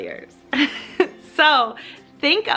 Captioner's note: laughs